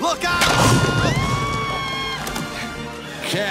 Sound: screams

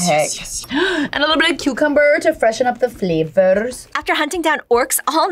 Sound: gasps

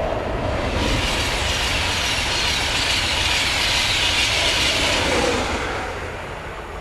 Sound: sound of Class 91 electric train passing

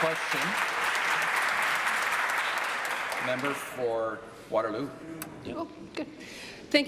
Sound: applause

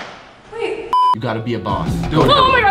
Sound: camera beeps

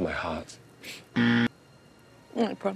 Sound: buzzer rings

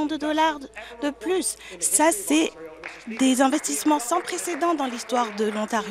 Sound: clapping

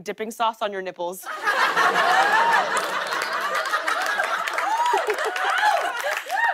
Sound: laughter and applause

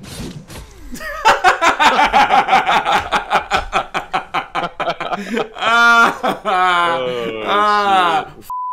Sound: laughing Maniacly

